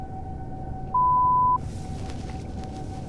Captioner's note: beep